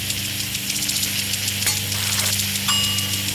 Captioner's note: bell dings